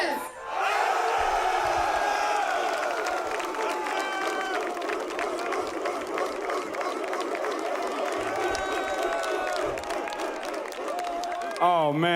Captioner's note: applause